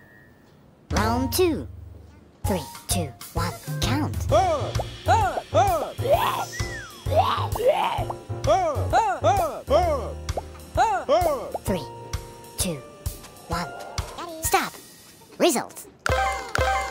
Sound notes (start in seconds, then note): 4.2 pigeon yelling